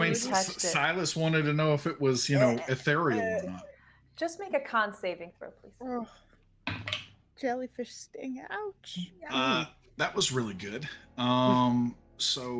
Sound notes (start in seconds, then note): 6.9 dice thudding; 6.9 person sighing